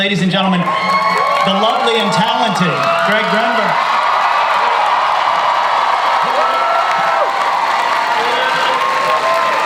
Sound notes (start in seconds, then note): 0.1 audience cheers; 4.0 audience cheers loudly